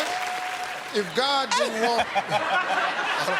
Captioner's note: laughs; laughter